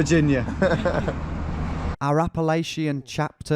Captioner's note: chuckling